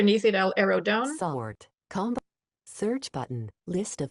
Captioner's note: screen reader chatters